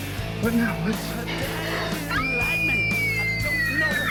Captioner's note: girlfriend screaming